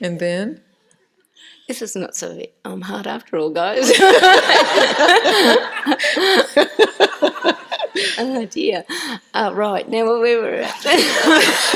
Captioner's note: laughter